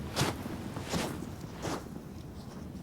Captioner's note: none